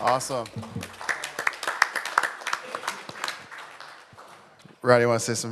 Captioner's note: applause